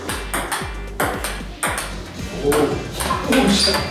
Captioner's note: ping pong